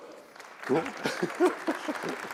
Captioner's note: applause; laugh